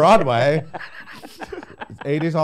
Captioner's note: laughing